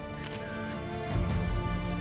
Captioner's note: camera shutter clicks